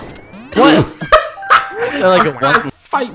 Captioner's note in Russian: смех